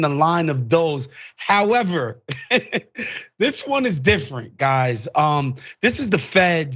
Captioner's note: laugh